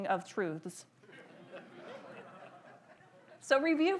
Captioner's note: audience laughs